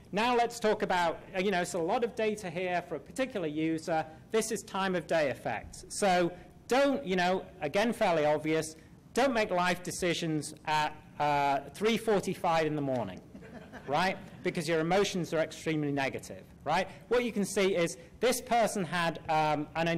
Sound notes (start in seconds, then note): 13.2 laughter